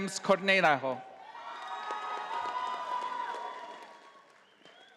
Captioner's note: audience applauding